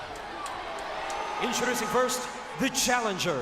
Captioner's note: audience cheers